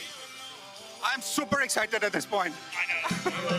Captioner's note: laughs